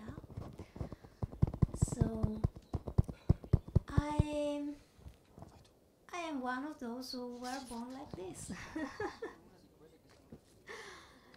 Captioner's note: laughs